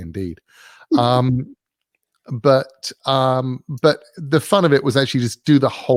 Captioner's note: laugh